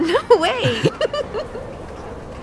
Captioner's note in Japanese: 笑い声